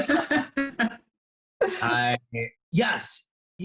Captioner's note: laughter